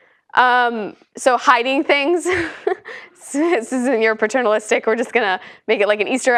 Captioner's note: laugh